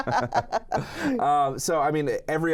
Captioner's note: pair laughs